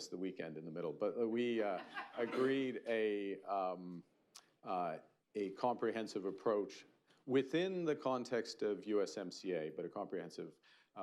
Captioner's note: laughter